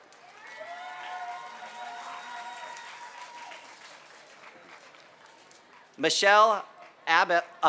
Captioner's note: applause